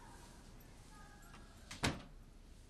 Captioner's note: TV pIaying